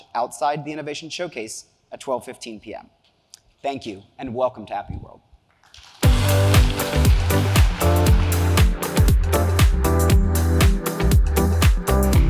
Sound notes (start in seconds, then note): 6.0 audience applauding; 6.0 cheerful music